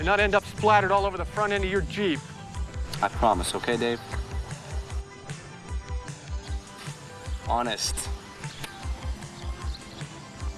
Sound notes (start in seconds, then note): 6.9 titters